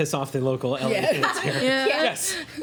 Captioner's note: laughing